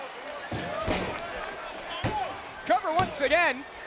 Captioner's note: stairs rattling